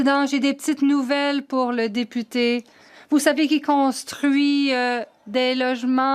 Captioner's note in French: voix de l'interprète